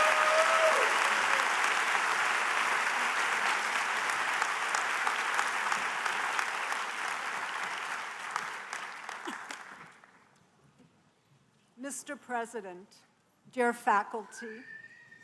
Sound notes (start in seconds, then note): 0.0 applause